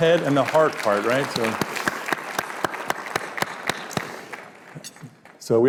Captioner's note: applause